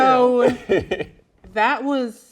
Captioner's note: laughs loudly